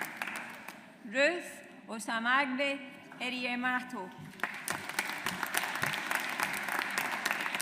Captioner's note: audience applauds